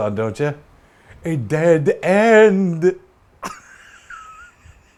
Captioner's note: laughs